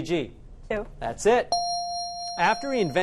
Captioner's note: correct answer chime